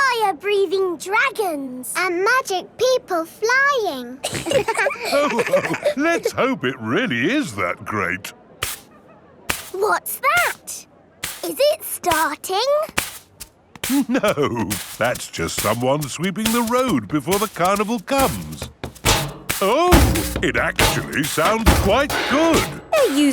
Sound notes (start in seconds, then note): 4.2 all laughing; 9.5 brushing; 21.8 rhythmic clanging